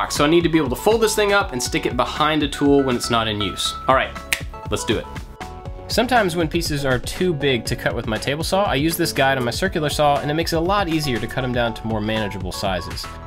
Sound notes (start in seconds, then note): 4.3 snaps